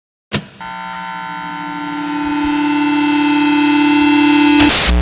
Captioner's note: sound board buzzing